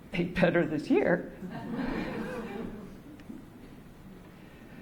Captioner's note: laughter